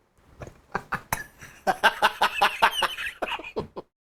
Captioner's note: laughs